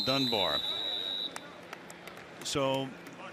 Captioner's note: whistle